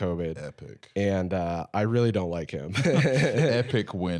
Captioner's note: laughs